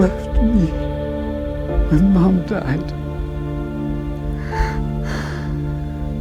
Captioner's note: crying; Josh crying; somber music